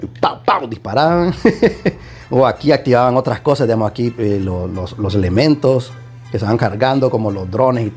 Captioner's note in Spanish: risas